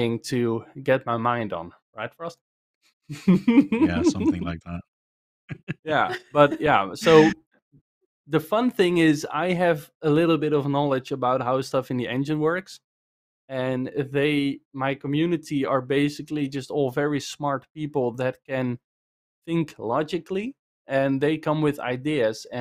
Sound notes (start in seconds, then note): 3.1 laughs; 5.0 laughter